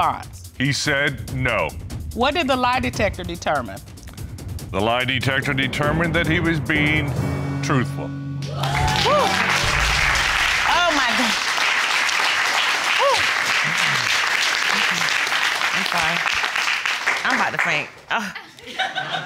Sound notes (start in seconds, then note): 10.1 sighs in relief